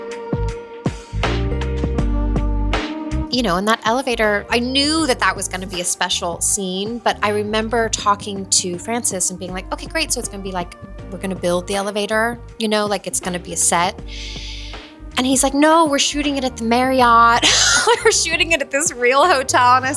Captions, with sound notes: (gentle music) You know, and that elevator, I knew that that was going to be a special scene, but I remember talking to Francis and being like, "Okay, great, so it's gonna be like we're gonna build the elevator, you know, like it's gonna be a set." And he's like, "No, we're shooting it at the Marriott. (laughs) We're shooting it at this real hotel."